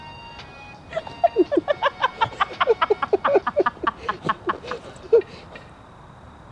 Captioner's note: both break out in a short laugh